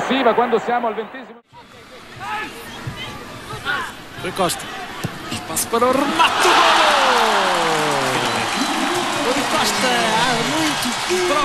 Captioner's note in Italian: Applauso